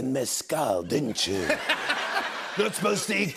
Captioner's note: laughter